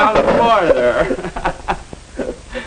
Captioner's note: laughing